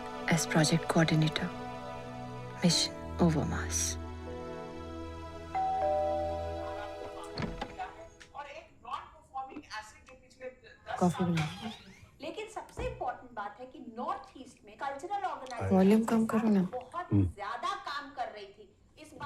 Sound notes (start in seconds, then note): 5.5 door bell ringing; 5.9 door opens; 7.2 TV sound; 12.2 TV sound; 17.1 TV sound